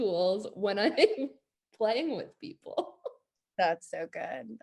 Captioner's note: laughs